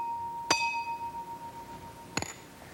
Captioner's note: ping